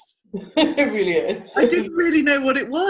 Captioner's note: laughs